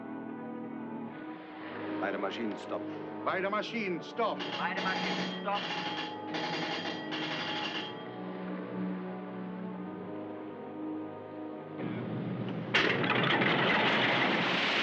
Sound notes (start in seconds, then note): 0.3 German; 4.0 ship's Telegraph Ringing; 4.1 crewman: German